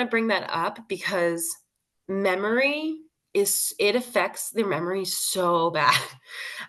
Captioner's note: laughs